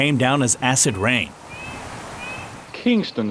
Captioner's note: bird chirping